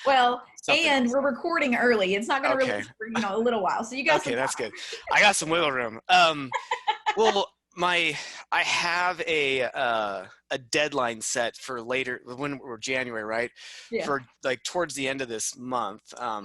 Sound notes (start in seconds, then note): 6.1 laughing